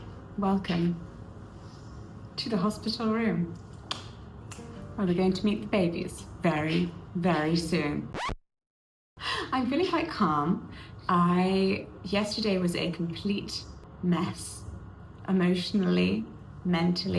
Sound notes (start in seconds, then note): 3.8 claps and snaps; 8.1 record scratches